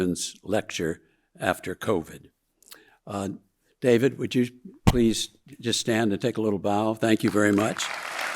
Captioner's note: audience applauding